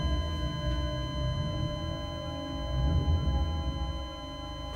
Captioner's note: flat line tone